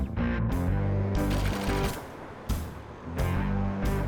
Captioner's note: mellow classic rock music; text clicking